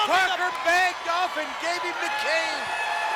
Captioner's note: crowd screaming